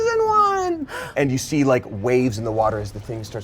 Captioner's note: gasps